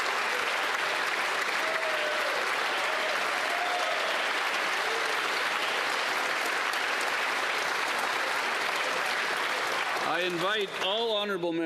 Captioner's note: applause